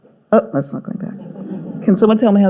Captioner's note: audience laughing